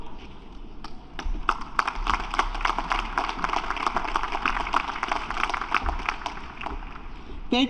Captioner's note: applause